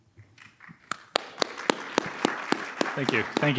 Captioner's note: audience applauding